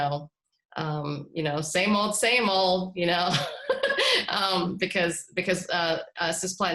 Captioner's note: laughter